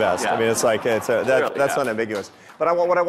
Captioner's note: audience laughing